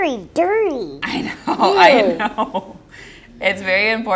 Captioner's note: laughs